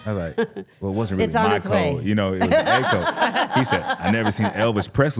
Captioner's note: laughs